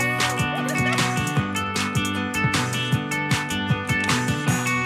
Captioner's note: laughing